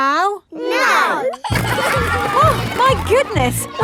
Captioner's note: giggling